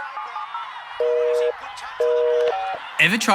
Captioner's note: phone dials; engaged tone